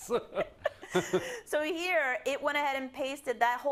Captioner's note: laugh